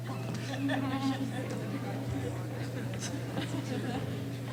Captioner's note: laughing